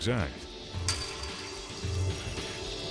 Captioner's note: metal gate clanking; tense music